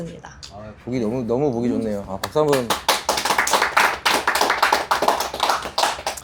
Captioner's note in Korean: 박수